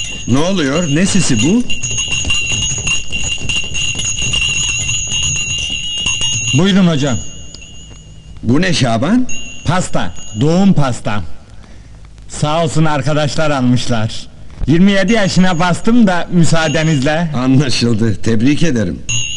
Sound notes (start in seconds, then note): 2.2 sound of Bell